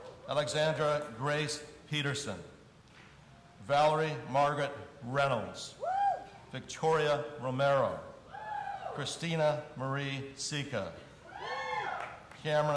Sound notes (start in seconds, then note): 8.4 audience cheering; 11.3 audience cheering